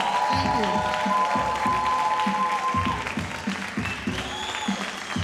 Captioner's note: audience cheering